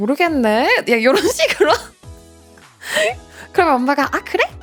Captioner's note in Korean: 웃음